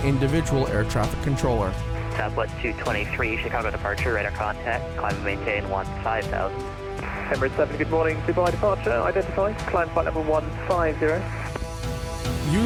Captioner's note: radio chatter